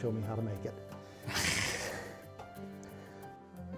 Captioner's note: both laugh